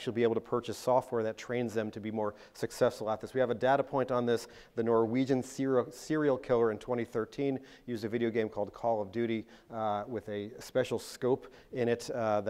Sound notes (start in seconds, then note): none